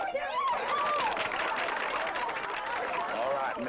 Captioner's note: people cheering